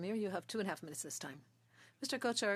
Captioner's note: speaking French